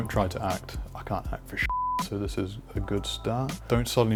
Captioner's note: beep